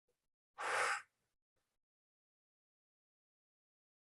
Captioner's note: exhaling